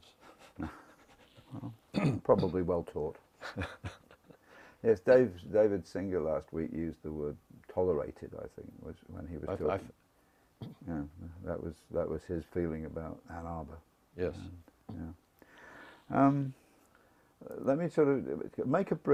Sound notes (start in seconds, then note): 0.3 laugh